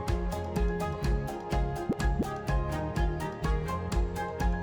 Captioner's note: bubbles pop